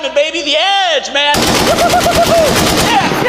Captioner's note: machine gun rattling